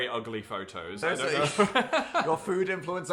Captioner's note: people laughing